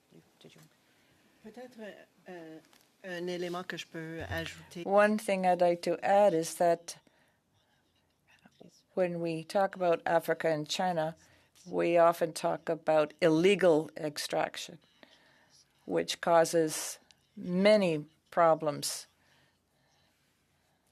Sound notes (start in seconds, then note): 4.5 speaking French